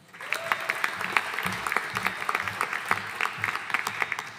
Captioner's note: audience applauding